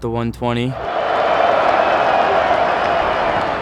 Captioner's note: crowd cheers